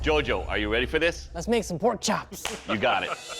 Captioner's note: laughing